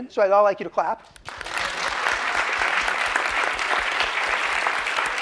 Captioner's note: applause